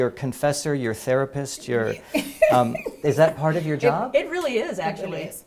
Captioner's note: laugh